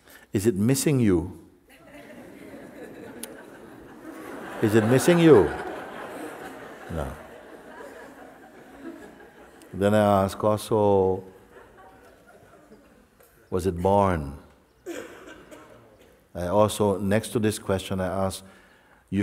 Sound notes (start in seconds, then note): 3.6 laughter; 7.4 laughter